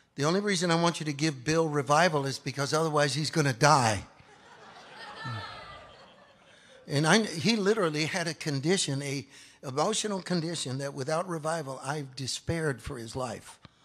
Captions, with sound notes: the only reason I want you to give Bill revival is because otherwise he's going to die. (audience laughs) And he literally had a condition, an emotional condition that without revival, I've despaired for his life.